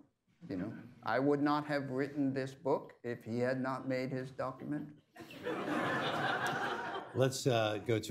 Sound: laughter

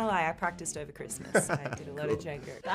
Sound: Diego laughing

